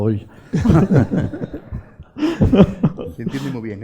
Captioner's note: laughs